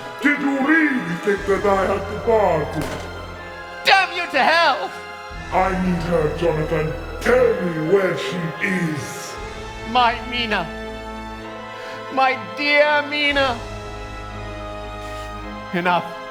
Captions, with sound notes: - (malevolent voice) Did you really think that I had departed? Damn you to hell! - (malevolent voice) I need her, Jonathan. Tell me where she is. My Mina, my dear Mina… Enough.